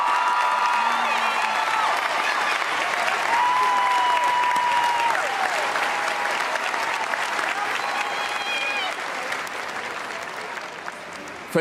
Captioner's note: cheers and applause